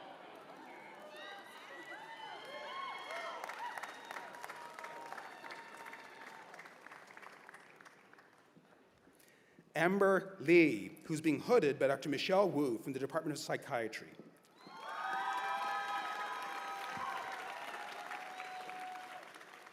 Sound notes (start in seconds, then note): 11.4 cheers and applause